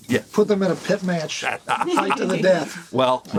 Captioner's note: laughs